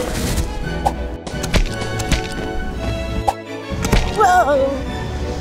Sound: paint splattering

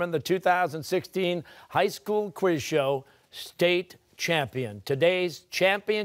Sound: none

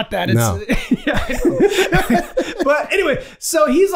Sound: all laughing

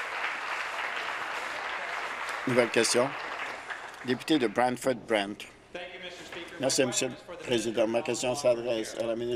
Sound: applause

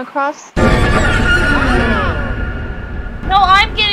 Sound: jumpscare noise

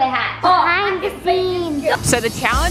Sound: whispering

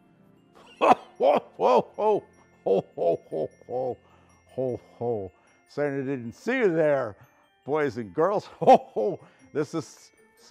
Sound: laugh

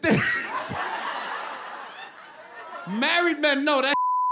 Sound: laughter

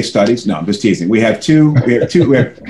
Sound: laughter

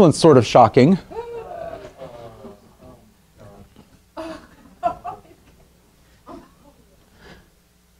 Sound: audience gasping

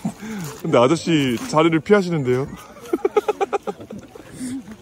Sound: laughing

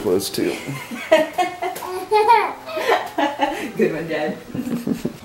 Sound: laugh

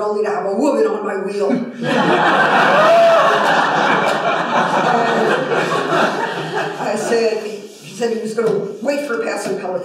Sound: laughter

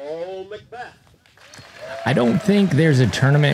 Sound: applause

